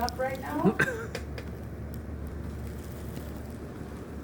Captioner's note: laughing